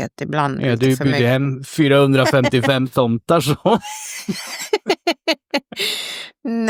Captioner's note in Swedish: skratt